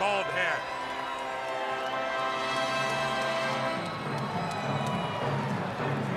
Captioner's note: crowd chatter